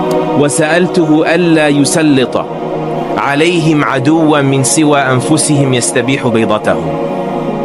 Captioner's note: speaking Arabic